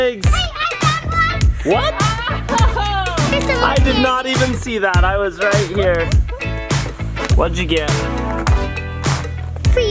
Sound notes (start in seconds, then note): 1.3 laughs